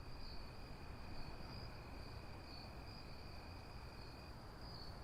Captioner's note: crickets